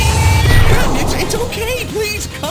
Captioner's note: explosion booms